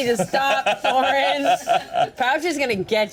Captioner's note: Thoren laughs